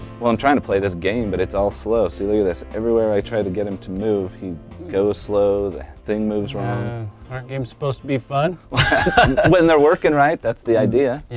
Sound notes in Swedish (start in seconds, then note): 8.7 skratt